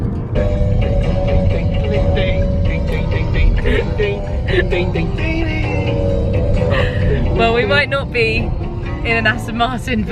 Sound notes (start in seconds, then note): 0.1 theme plays; 2.4 hums along